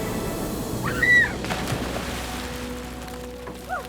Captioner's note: screaming